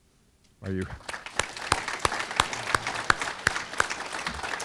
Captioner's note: audience clapping